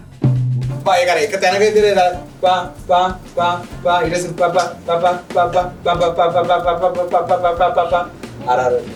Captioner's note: humming